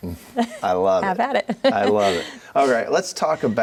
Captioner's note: chuckles